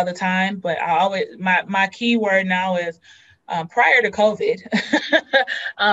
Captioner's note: laughs